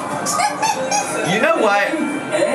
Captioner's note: laughing